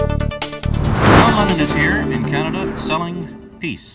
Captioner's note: whoosh; theme